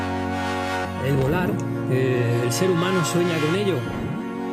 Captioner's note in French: en espagnol